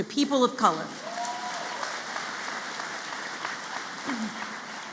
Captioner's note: applause